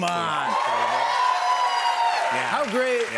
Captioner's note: cheers and applause